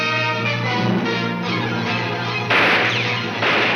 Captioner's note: guns fire